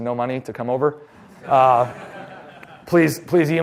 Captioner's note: laughter